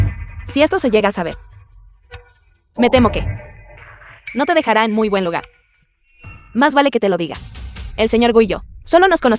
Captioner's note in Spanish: campana